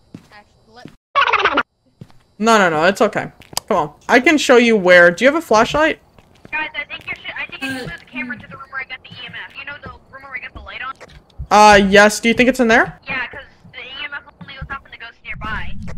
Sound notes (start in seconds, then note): 6.8 over Radio; 13.2 over Radio